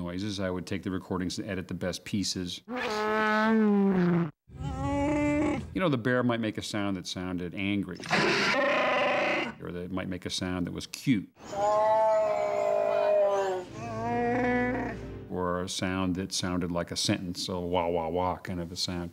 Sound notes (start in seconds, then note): 4.5 roaring; 11.4 growling